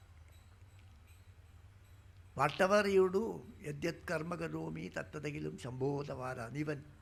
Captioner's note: speaking in Sanskrit